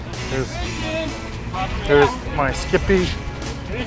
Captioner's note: cheers